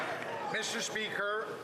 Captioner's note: some Applause